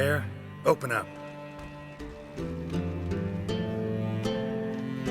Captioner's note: pounding on door